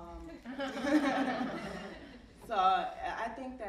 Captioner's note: audience laughing